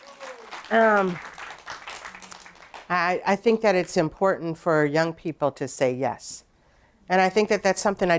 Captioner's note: applause